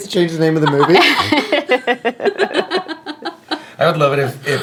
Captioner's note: laughing